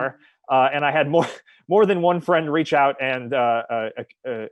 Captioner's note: chuckles